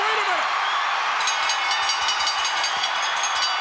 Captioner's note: bell dinging; crowd cheering